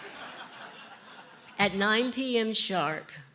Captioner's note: laughter